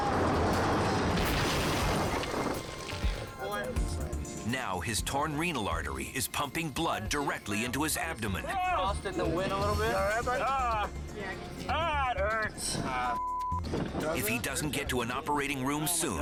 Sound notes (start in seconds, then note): 0.0 bike crashing; 13.0 beep